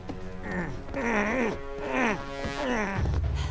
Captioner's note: straining